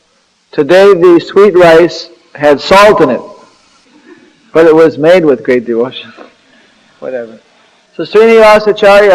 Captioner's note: laughter